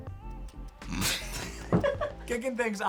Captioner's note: laughter